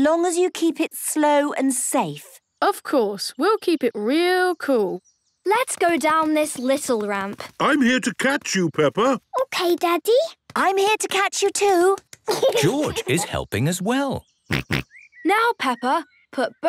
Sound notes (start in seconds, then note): 14.5 snorts